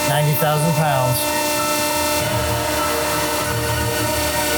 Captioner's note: machine whirring